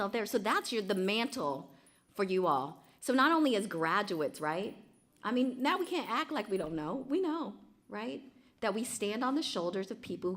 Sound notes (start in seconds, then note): none